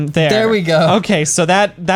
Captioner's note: pat